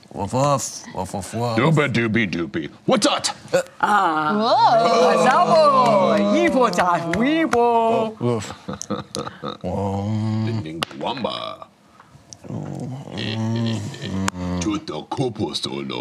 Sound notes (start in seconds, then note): 2.8 grunts; 12.4 grunting